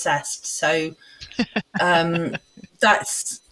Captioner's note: laughs